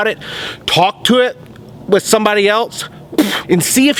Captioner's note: blows